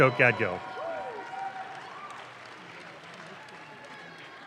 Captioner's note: audience claps